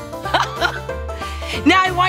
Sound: laughs

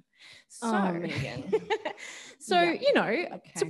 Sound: laughs

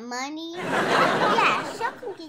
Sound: audience laughs

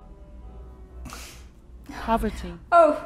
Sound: sniff

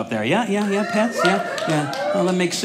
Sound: audience cheering

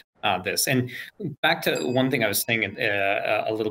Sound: bell dings

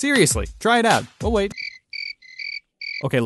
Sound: crickets chirp

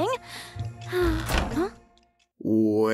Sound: exhales

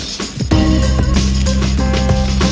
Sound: none

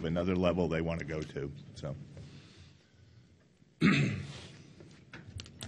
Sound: clears throat

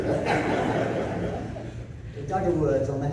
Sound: laughing

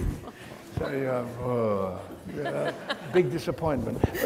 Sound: audience laughs

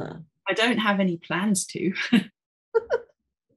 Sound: chuckling

